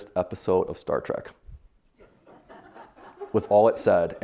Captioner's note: audience laughing